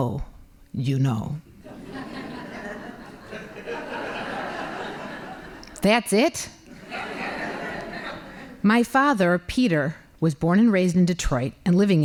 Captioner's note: laughing